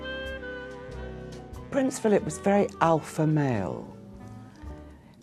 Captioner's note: voiceover